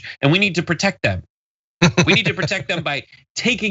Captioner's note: laugh